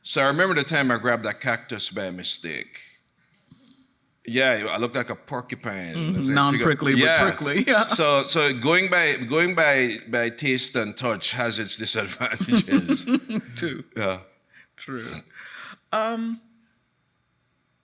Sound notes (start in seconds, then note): 6.0 laughs; 11.9 chuckles